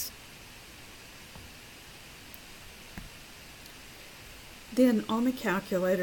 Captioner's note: silence